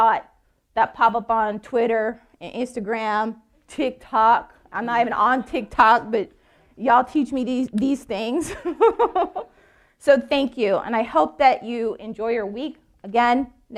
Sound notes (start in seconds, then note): 8.5 laughing